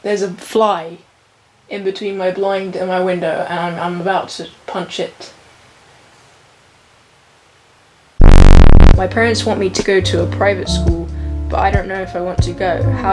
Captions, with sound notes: There's a fly in between my blind and my window and I'm about to punch it. (loud rumbling) My parents want me to go to a private school, but I don't know if I want to go.